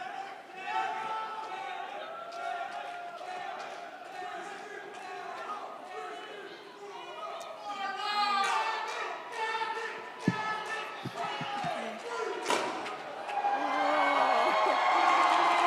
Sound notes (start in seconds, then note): 7.5 audience cheers; 7.5 horn blows